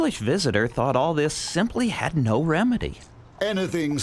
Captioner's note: English accent